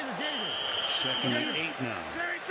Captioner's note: whistle blows